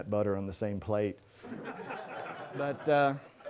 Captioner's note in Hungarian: nevetés